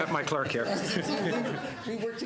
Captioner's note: laughter